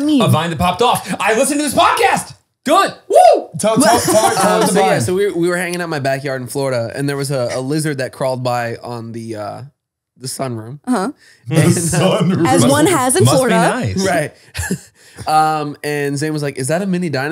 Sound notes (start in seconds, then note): 11.5 laughs